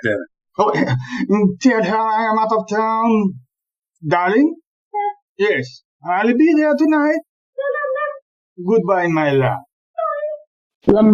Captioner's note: high pitched female voice - Yes